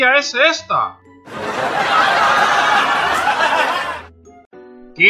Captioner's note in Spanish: Risas